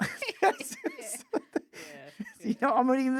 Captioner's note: laughing